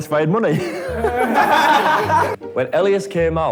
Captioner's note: laughs